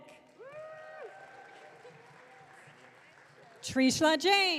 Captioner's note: audience cheering